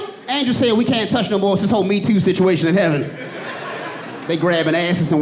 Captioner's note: audience laughing and cheering